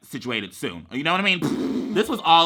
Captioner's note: blows raspberry